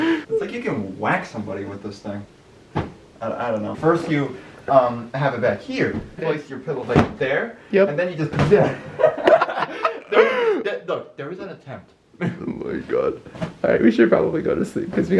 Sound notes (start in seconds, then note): 8.7 lols